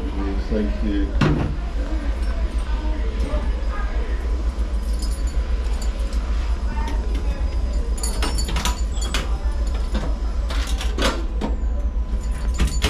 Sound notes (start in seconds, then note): 4.6 keys clinking; 8.0 cabinet clacking